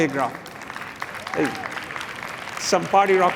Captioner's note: applause